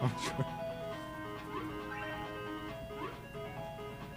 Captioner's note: game beeping